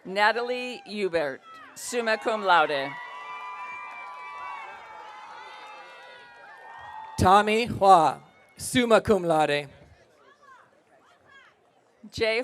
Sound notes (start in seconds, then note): 0.0 audience cheering; 3.1 audience cheering